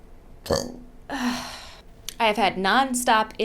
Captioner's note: burps and sighs